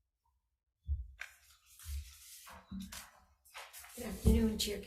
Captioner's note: papers rustling